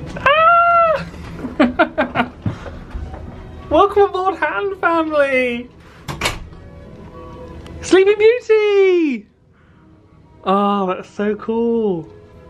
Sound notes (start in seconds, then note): 0.2 yelping and laughing; 6.0 door clicking